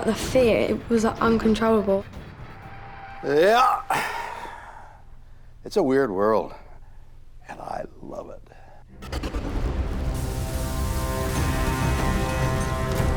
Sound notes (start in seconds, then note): 4.1 grunts; 8.9 dramatic suspenseful music